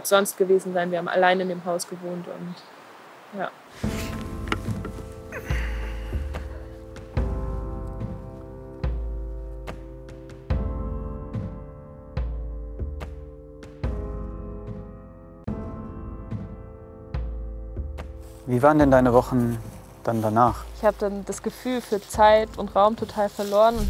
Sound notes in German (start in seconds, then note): 4.0 Beklemmende Musik; 5.2 Stöhnen; 15.1 Beklemmende Musik